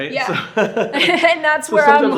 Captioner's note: laughing